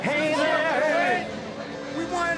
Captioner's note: crowd cheering; crowd chatter